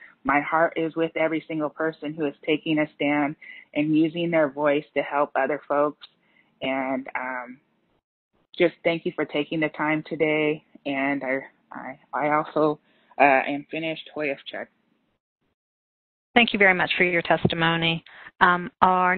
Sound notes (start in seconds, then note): 14.0 speaking in native language